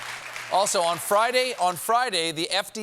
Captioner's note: applause